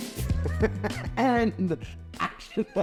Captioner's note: laughing